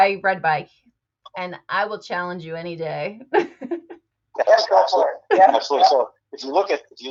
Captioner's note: chuckles